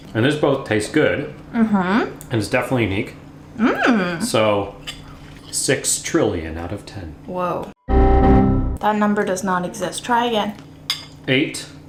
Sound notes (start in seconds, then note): 7.8 beeping sound